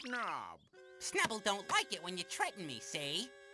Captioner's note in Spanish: enojada